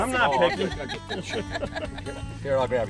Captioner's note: laughter